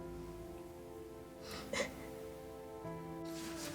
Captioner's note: sobs